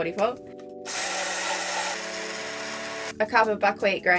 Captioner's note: whirring